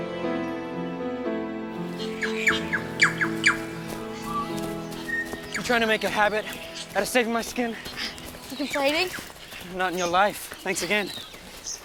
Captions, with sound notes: (birds chirp) - You trying to make a habit out of saving my skin? - You complaining? - Not on your life, thanks again.